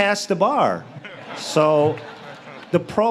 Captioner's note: audience laughs